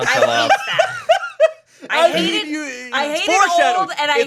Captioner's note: laughing